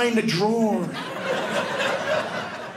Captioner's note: audience laughing